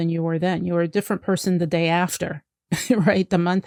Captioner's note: laughs